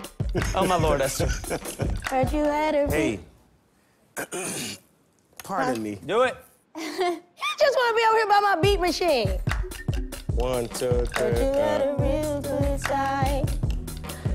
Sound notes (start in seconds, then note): 1.0 laughter; 4.2 clears throat